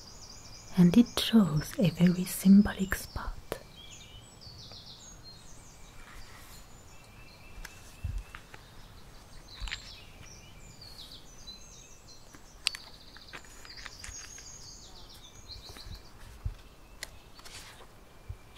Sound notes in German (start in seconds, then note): 4.1 Vogelgesang und Seitenumblättern